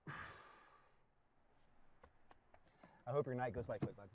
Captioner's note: sighs